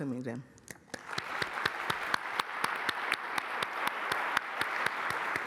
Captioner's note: applause